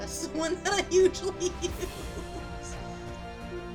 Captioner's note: laughing